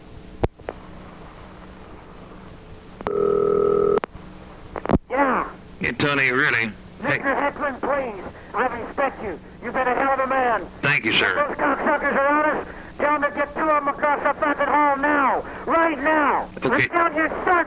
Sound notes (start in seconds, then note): 3.0 phone ringing